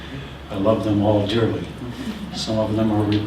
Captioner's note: laughter